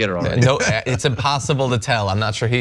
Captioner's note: laugh